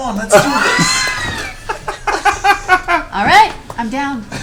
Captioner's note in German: Gelächter